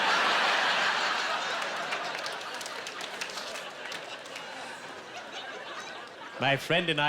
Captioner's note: laughing